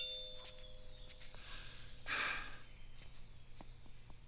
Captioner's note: deep inhale